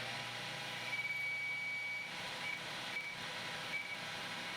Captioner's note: machine whirring